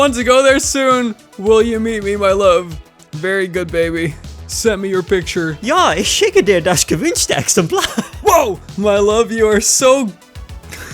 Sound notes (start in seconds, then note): 7.0 laughing